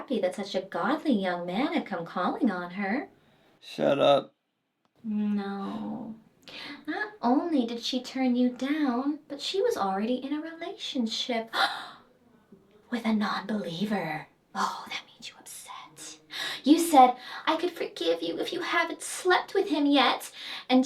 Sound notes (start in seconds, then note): 12.0 Sarah gasps